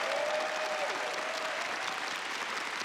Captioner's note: applause